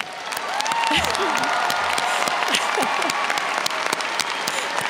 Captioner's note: audience cheers and applauds